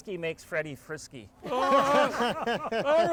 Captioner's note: everyone laughing